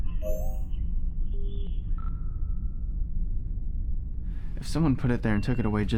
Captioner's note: computer beeps